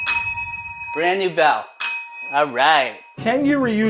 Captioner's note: bells dinging; rings bell